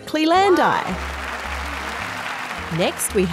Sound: applause

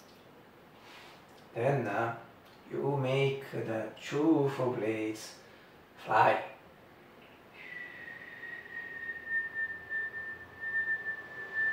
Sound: whistle

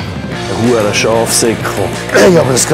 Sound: curses

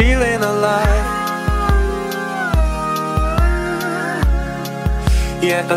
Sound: awooo~

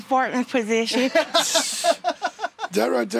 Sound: laughter

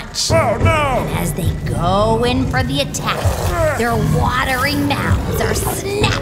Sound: soundbite dinosaur growls

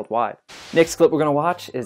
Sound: static noise

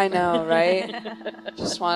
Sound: laughing

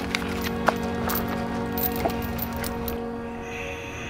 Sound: chains rattle

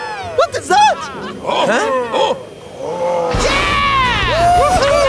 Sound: cheering

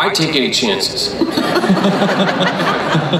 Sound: crowd laughs

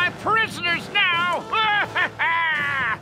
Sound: laughing

